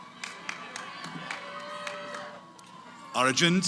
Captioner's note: cheering